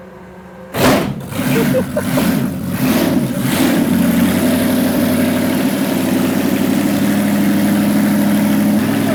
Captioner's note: engine revs, roars